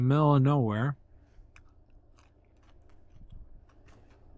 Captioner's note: wind blowing